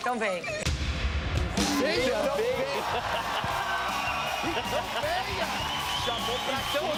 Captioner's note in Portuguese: risos